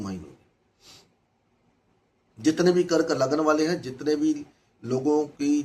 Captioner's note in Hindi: नाक से की जाने वाली आवाज़